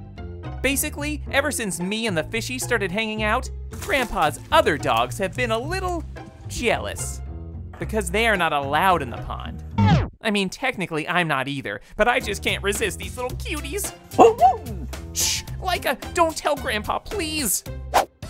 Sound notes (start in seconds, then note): 14.2 dog barking